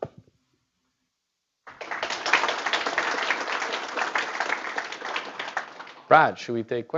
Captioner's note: applause